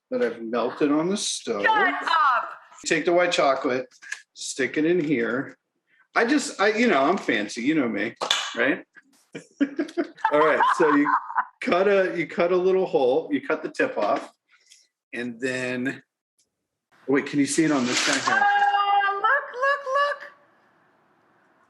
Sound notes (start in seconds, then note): 9.3 chuckles; 9.4 Rachael laughing